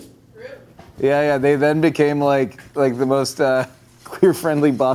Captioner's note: chuckling